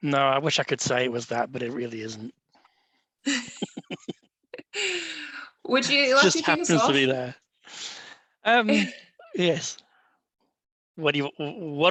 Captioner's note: laughs